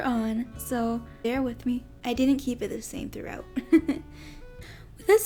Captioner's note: giggles